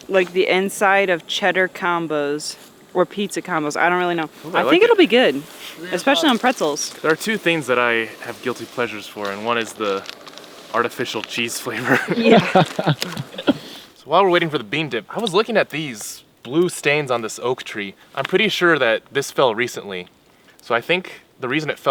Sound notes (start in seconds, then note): 11.8 all laugh